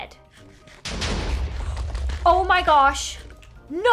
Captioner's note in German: explosion